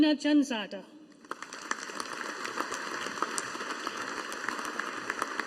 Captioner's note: audience applauding